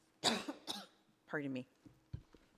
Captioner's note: woman coughing